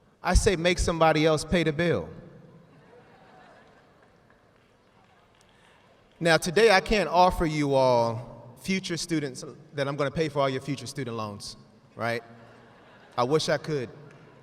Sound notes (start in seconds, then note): 2.7 audience laughs; 12.3 students laughing